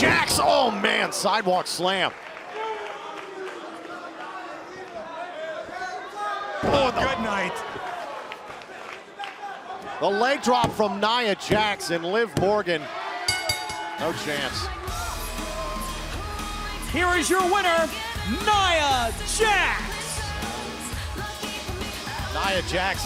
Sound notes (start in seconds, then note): 3.8 crowd cheering; 13.2 bell ringing